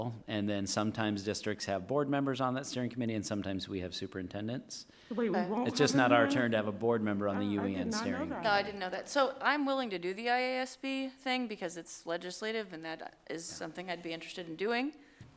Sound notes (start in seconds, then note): 7.1 voice fades